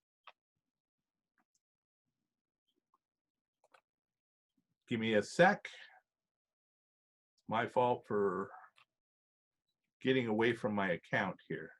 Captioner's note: silence